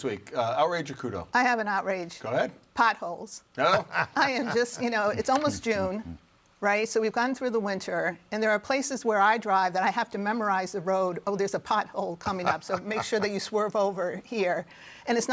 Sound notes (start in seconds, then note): 3.6 laughs